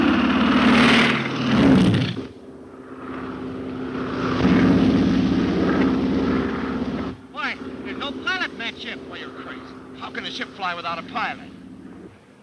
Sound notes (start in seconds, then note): 0.1 Phantom roaring; 4.1 Phantom buzzing